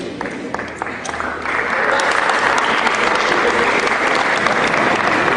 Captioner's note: cheering